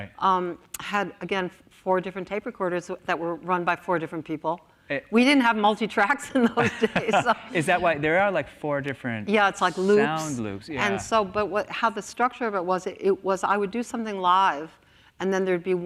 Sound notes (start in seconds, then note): 6.4 laughs